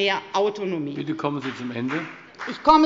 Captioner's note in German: Beifall bei der FDP